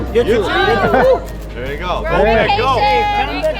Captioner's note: cheers